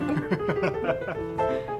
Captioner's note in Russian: смех